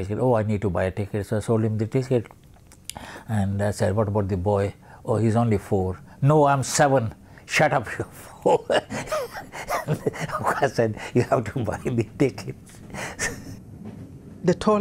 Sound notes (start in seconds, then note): 8.2 laughs